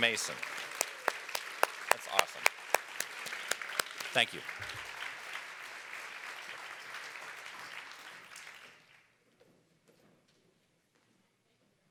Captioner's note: applause